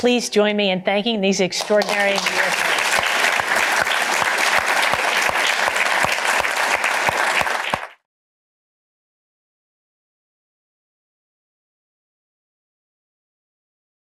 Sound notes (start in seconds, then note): 1.6 cheers and applause